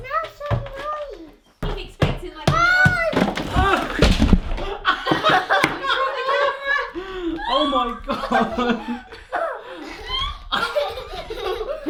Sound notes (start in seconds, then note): 4.6 yelling and laughing; 9.5 laughing